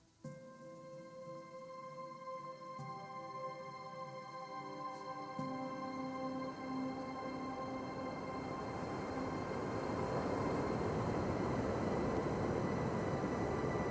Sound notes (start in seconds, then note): 0.2 gentle music; 7.7 wind whooshing